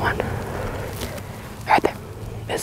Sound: whispering

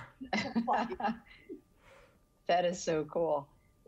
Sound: everybody laughing

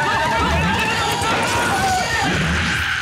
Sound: screaming

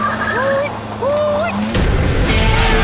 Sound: hooting; crowd Cheering

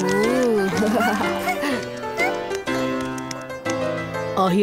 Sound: giggling

